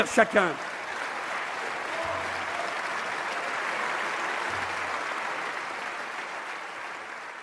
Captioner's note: applause